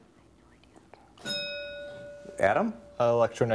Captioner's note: bell rings